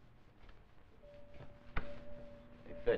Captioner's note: dinging sound